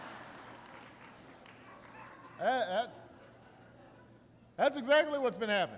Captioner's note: laughter